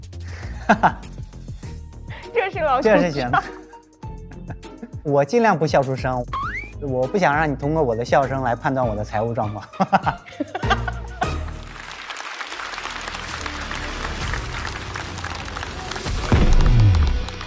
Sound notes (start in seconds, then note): 0.6 haha